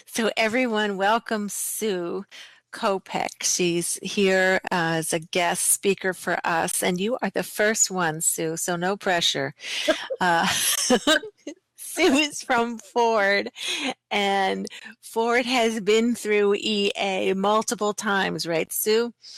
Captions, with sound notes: So, everyone welcome Sue Kopeck. She's here as a guest speaker for us. And you are the first one, Sue, so no pressure. [Laughter] Sue is from Ford. And Ford has been through EA multiple times, right Sue?